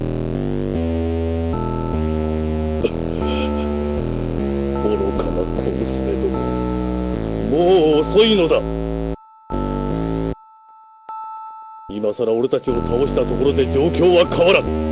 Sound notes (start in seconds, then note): 3.2 gasp